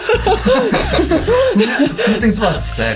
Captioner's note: laughing